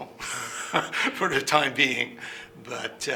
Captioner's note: laughing